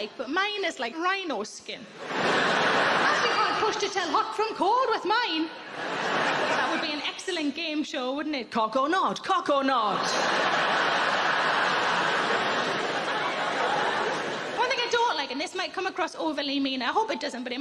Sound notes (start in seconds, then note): 2.0 audience laughing; 9.9 audience laughing